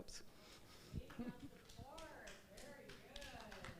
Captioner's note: speaking softly